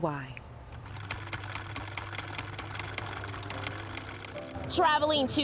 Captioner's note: sewing machine chucking